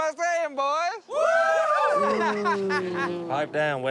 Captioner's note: cheering